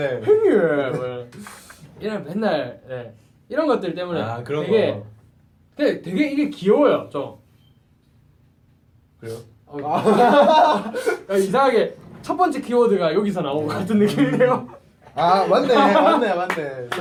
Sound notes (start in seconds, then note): 7.4 silence